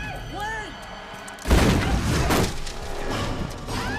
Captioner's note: gun firing; Nikita screaming